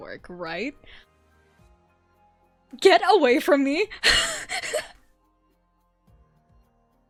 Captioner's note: panicked laughter